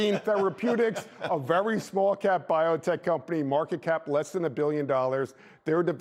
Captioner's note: laughter